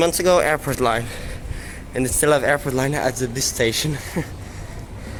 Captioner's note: laughs